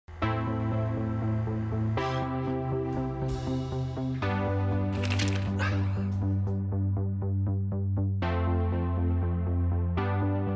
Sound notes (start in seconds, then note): 0.5 soft music; 2.5 breathes heavily; 4.9 page turns; 7.7 soft music